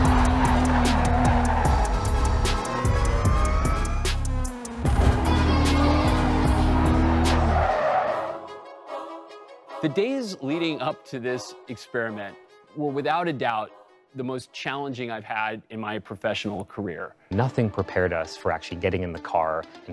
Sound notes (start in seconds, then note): 2.9 engine whooshes; 4.7 engines roaring; 4.8 tires screech